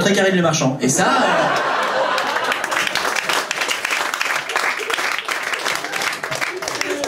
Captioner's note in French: rires et applaus public